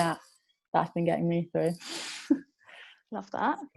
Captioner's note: laughs